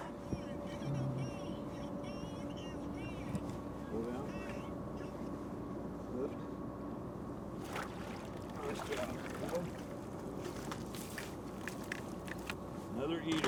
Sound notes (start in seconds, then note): 7.6 fish splashing